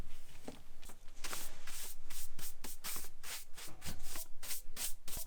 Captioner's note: brush brushing